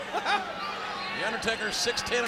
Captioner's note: Jerry laughs